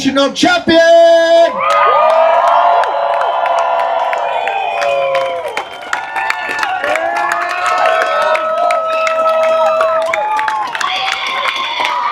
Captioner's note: applause